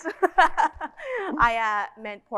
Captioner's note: narrator laughing